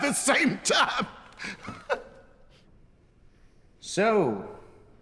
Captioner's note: laughing